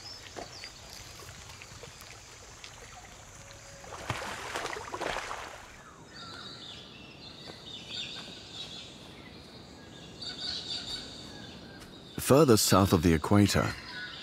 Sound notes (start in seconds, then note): 5.4 birds chirping